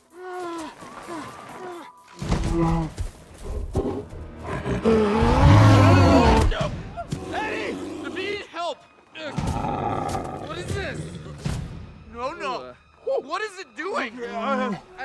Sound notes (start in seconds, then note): 4.4 roars; 9.3 grunts; 12.7 groans